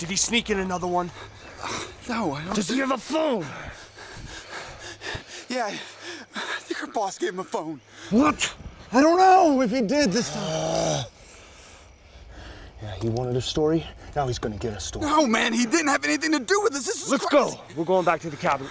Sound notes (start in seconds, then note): 3.3 gasping; 9.6 groans